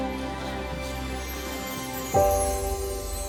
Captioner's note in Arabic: ثرثرة الحشود